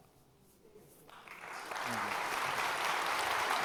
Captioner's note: audience applause